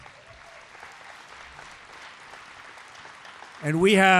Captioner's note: applause